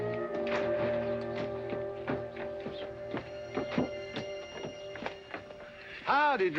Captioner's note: footsteps down stairs